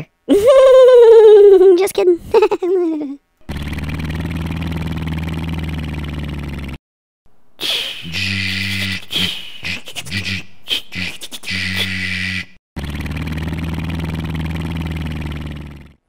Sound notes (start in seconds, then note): 3.5 excavator motor; 7.6 excavator hydraulics; 12.8 excavator motor